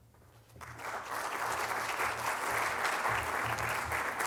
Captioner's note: applause